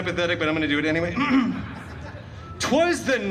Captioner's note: clears throat